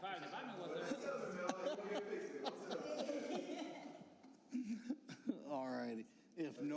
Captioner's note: laughter